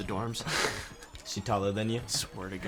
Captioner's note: chuckles